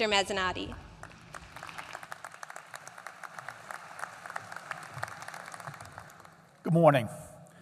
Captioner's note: applause